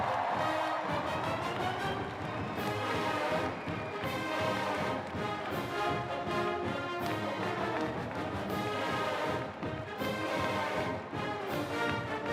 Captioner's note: cheers and applause